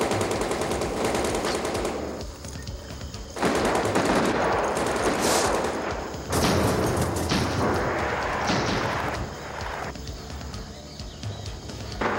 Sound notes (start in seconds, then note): 0.2 guns firing; 6.2 explosion booming